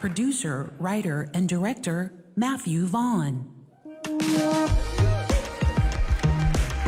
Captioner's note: applause